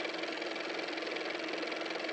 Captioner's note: car motor